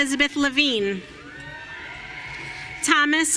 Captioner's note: audience cheering